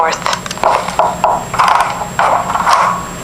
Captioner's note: footstep sound effects; doorknob sound effect